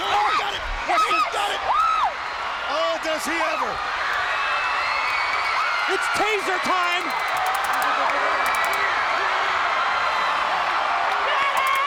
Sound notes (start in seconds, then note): 7.3 stun gun zapping